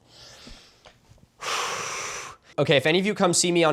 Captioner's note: calming breath